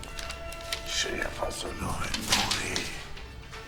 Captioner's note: paper rustling